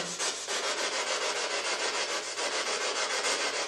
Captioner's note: scratching